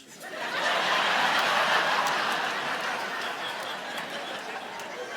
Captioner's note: audience laughing